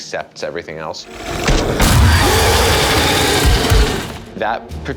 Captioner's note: queen roaring